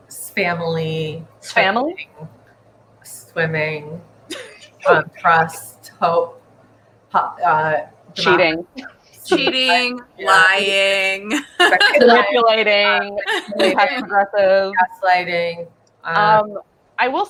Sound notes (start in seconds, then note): 11.2 laughing